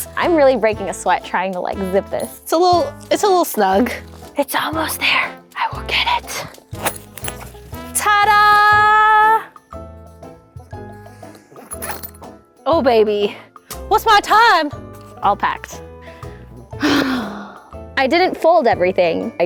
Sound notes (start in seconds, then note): 16.7 sighs